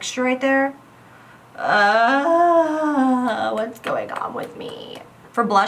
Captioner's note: long sigh